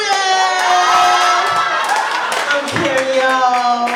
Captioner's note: laughter and applause